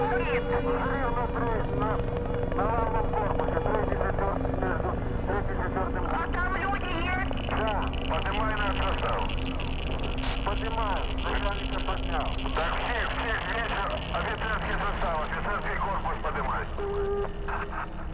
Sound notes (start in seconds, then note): 1.8 sirens; 6.5 sirens; 8.6 helicopter; 10.5 geiger counter; 12.4 geiger counter; 17.2 geiger counter